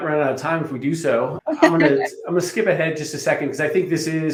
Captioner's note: laughing